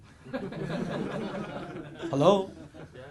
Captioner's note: audience laughs